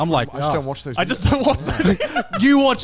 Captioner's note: laughs